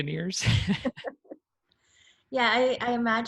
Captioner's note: laughs